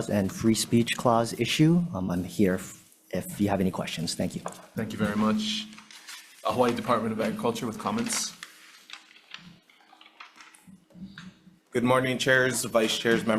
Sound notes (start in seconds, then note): 9.0 papers rustle